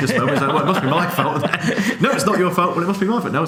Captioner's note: laughing